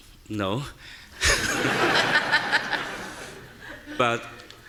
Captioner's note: audience laughing